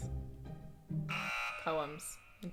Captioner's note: buzzer sounds